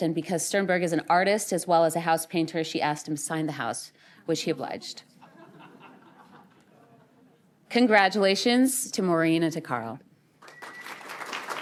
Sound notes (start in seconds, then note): 5.1 laughter; 10.4 applause